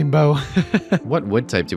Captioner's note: laughs